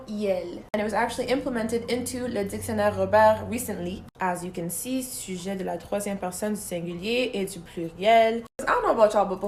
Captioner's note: speaking french